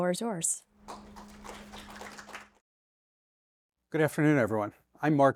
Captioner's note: audience applauds